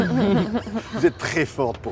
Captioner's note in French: rires